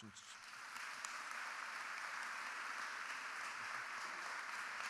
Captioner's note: audience clapping